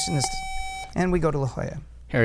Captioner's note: buzzer